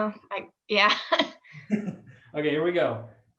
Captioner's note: laughter